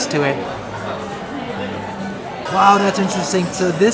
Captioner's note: savoring